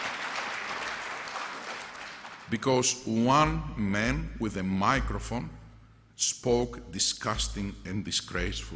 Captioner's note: applause